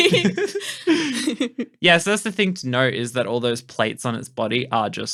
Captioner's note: laughing